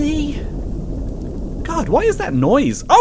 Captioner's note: crackling